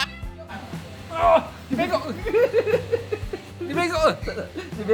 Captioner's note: laugh